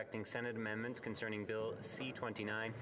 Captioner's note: speaking French